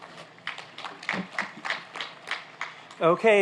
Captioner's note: applauding